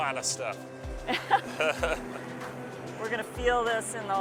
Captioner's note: both laughing